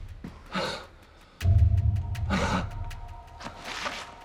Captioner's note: Danny gasps